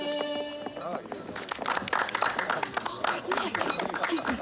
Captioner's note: all clapping